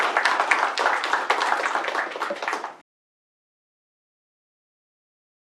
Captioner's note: applause